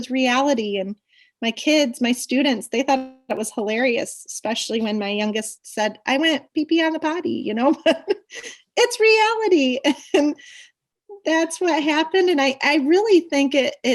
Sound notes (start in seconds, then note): 9.3 laughs